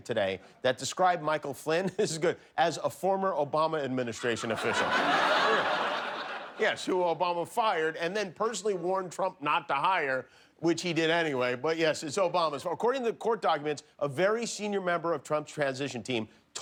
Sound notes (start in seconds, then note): 4.2 laughter